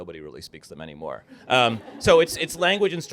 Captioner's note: laughter